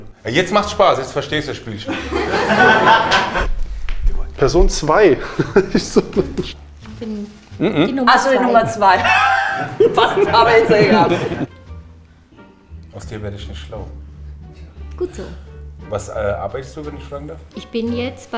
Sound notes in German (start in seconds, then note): 1.8 Gruppe lacht; 8.1 sie lachen und rufen durcheinander